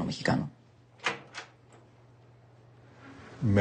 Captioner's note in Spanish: Sonido al abrir la puerta